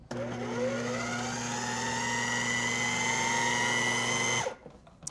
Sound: whirring

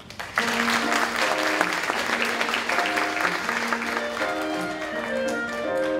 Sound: applause

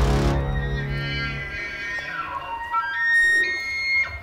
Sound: elk call

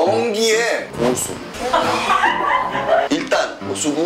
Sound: just laughs

